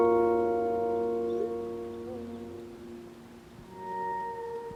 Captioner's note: phone chimes